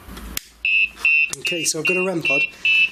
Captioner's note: beeping